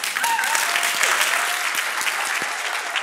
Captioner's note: applause